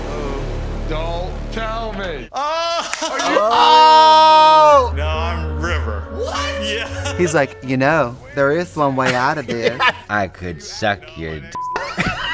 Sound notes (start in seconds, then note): 2.3 Trixie and Katya yell; 2.4 laughs; 9.4 Katya laughs; 11.7 beep